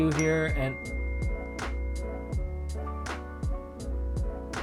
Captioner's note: phone dinging